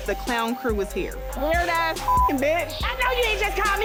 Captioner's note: beep